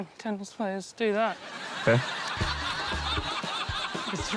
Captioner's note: laughter